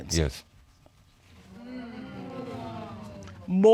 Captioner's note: audience exclaiming